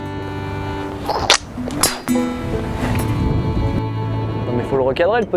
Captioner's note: clunk